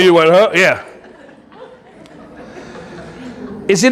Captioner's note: audience laughing